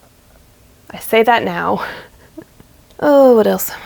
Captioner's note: laughs